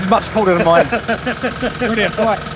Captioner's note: laughing